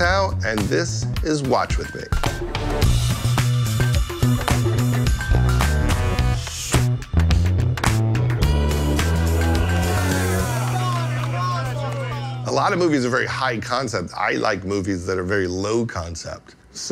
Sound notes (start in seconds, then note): 2.5 upbeat music; 9.5 group cheers